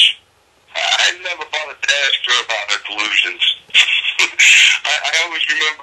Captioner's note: laugh